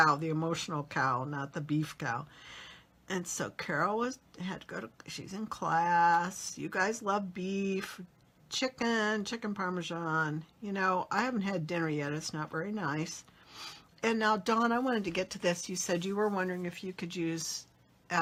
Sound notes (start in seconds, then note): none